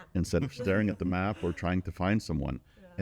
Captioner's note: chuckling